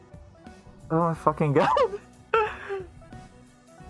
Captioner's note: laughing